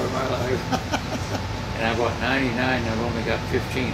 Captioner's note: laughing